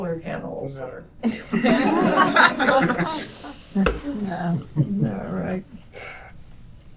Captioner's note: laughter